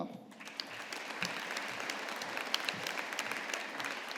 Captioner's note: audience applauding